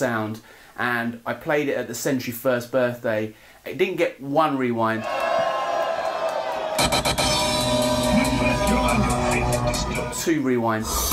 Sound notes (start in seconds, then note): 5.0 crowd cheering; 6.7 dubstep music playing